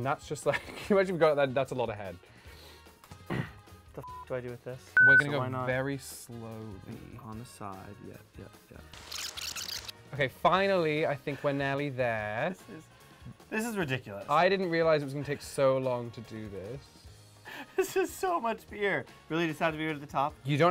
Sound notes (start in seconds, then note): 5.0 loud beep; 5.0 beep; 9.2 tape screeches